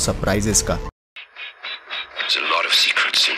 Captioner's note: helicopter blades